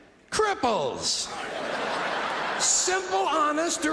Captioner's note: audience laughing